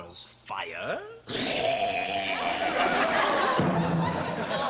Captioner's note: burps